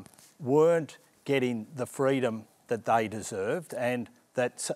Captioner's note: none